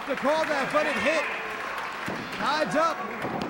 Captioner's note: crowd cheering